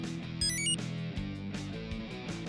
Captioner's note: enter chime; two short beeps